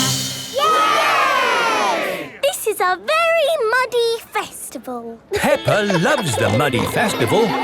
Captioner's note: all laugh